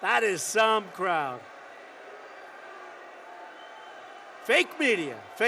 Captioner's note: applause